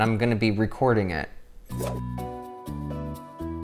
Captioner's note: whoosh; inquisitive music